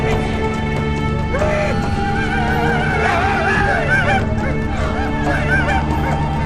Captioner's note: native Americans give war cries